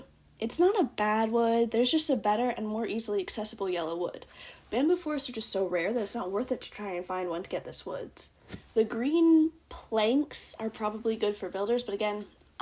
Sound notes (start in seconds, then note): none